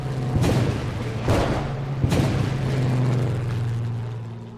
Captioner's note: electricity crackles